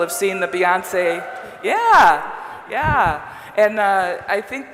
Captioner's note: audible cheers from the several audience members